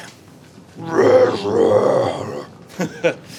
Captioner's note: Growls in Bear-lish; chuckles stupidly